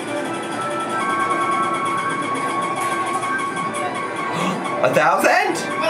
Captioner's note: machine dinging